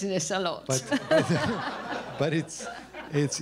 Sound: laughter

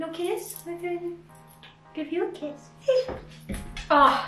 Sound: kissing; Benji whimpering

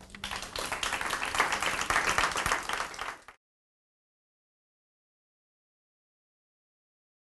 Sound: applause

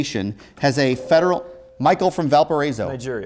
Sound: beeping

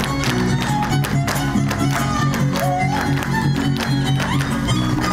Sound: applause

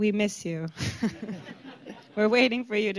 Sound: laughter

